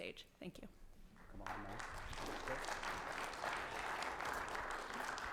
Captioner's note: audience applauding